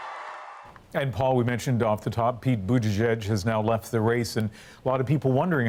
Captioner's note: cheers and Applause